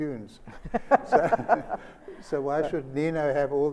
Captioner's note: Sonia laughs